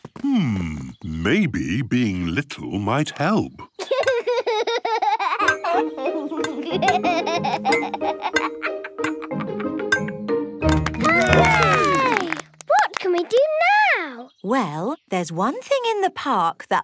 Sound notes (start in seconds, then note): 3.7 laughs; 10.8 all cheer